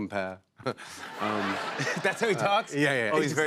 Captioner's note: laughter